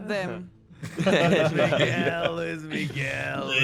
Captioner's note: laughs